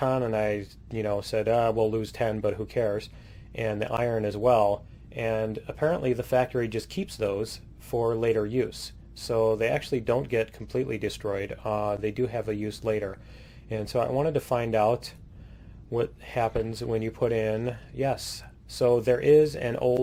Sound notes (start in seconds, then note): none